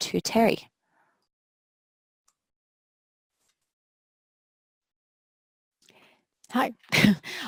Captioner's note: pause